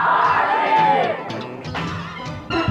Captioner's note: crowd